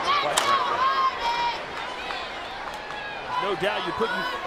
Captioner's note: audience chattering